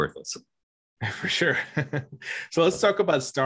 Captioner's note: chuckling